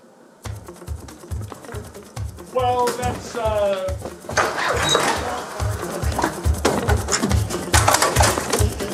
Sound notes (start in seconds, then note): 4.2 door squeaking; 7.4 scraping